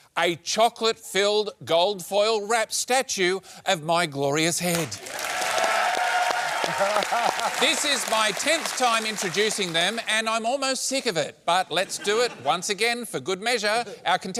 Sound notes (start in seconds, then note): 4.8 applause